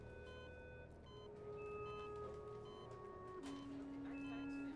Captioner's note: machine beeping